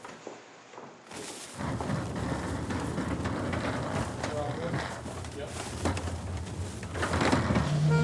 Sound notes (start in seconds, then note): 1.1 wheels rattle